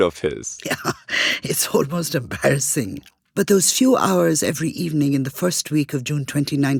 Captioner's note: laughs